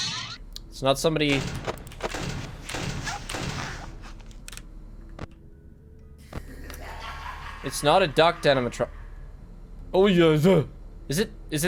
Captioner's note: frightened noise